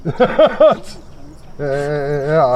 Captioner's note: laughs